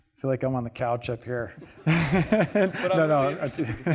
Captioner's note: all laughing